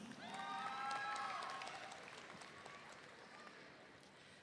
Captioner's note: audience cheering